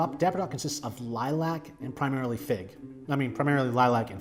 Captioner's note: none